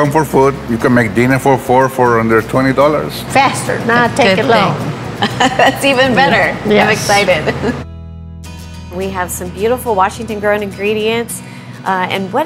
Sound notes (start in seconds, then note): 5.2 laughing